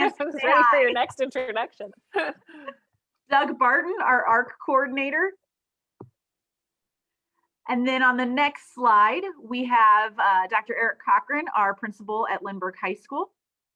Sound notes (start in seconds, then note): 0.0 both laughing; 2.1 both laughing